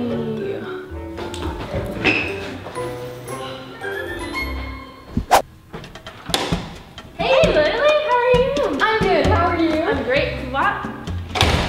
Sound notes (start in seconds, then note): 1.5 sneakers squealing